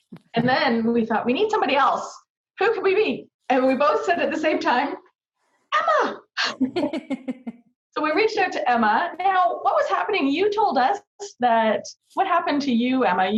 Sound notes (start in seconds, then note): 6.4 laughing